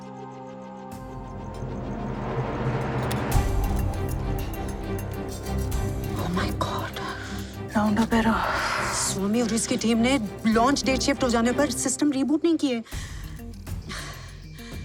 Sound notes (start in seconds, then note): none